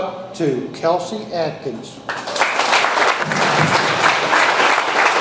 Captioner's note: audience applauds